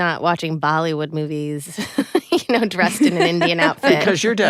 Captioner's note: laughs